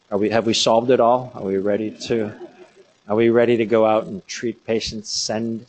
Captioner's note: laughter